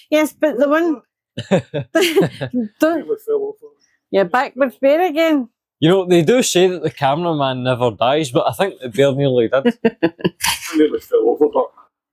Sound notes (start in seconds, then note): 1.4 laughter; 9.6 laughter